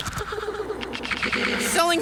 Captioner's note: squishing sounds